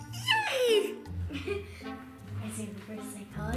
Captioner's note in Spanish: ríe